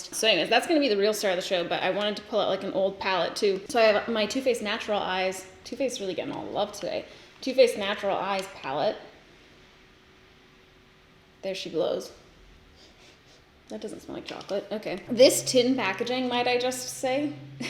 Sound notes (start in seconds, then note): 12.8 sniffs